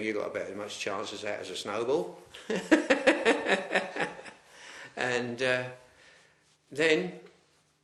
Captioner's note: laughs